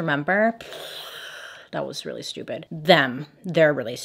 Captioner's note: lips blowing